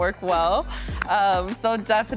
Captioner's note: laughs